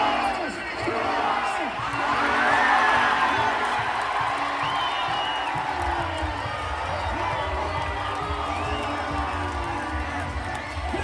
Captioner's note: cheering